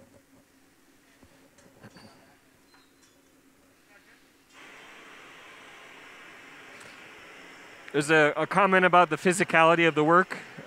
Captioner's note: pause; sound of blowtorch